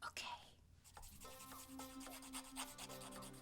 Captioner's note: whispering